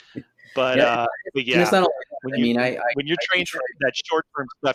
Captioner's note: murmurs